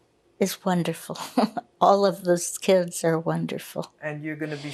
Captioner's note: laughing